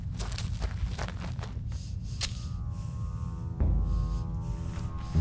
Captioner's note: Ellie breathes heavily